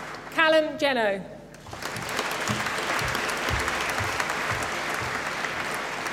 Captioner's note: applause